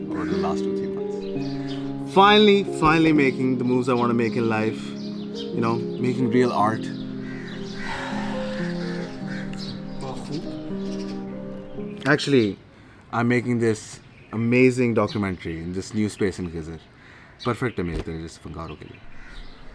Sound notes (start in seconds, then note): 7.7 sighs